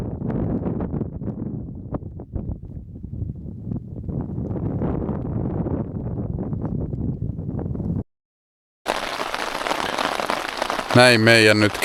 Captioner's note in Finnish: Aplodeja